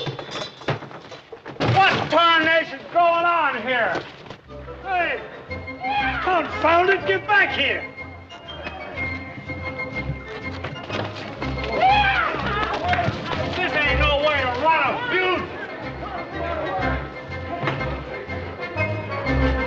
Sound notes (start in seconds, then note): 11.6 others joyfully hollering